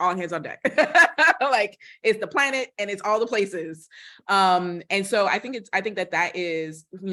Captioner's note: laughter